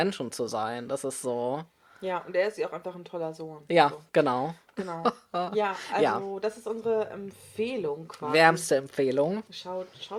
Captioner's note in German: kicher